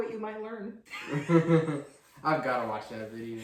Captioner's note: boy laughs